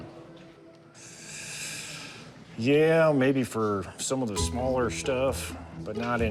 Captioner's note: inhales